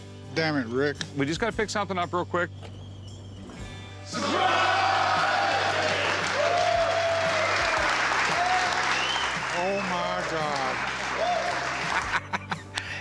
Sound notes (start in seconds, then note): 5.7 cheering